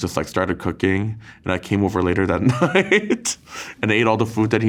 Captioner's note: laughs